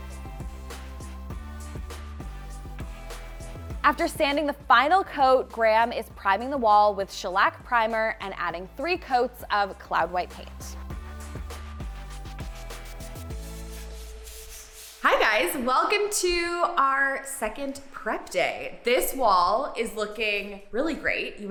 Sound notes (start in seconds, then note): 0.2 funky music; 11.1 funky music; 13.7 screen swishing